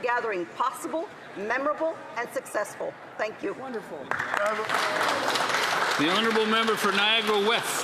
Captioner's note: speaking Alternate Language